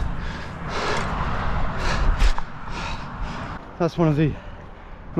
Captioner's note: gasping